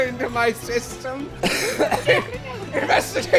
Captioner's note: laugh-coughing